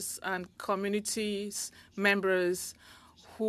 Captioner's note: speaking French